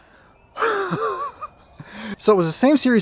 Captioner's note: chuckles